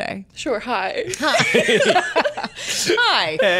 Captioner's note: laughter